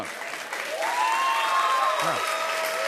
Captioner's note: cheers and applause